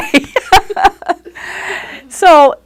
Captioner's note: laughing